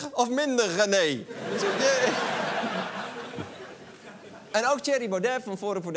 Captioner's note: laughter